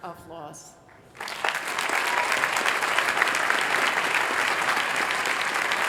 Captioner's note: applause